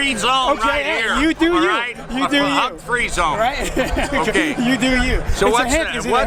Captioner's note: laughs